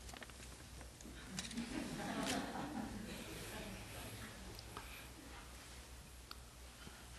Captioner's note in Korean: 청중 웃음